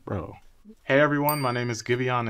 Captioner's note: text dings